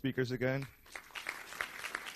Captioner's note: applause